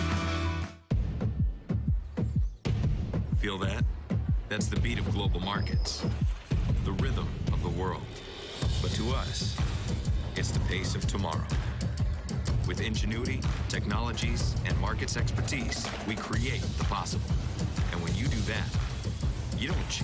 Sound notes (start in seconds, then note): 12.5 heart beat